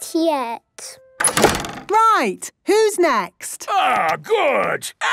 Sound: doors slamming

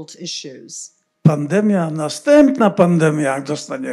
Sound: foreign language

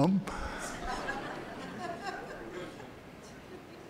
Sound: laughter

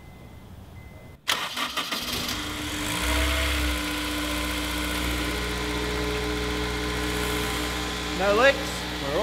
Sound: ignition on, engine revs

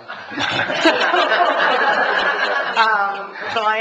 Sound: laughs

